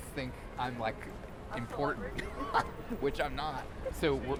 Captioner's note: chuckles